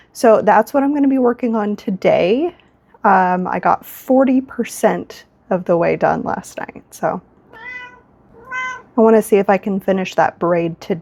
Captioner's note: meow